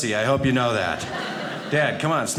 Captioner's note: audience laughing